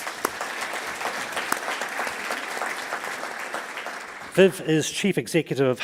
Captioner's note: audience applauds